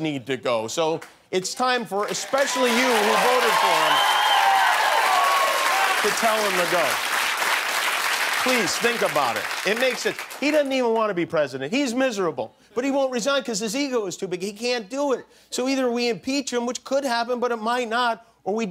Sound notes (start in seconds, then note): 7.2 cheers and applause